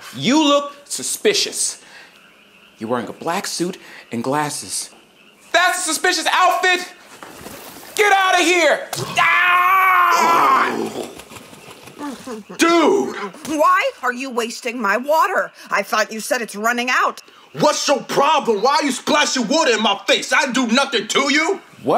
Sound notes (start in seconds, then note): 6.4 water splashing; 9.0 screams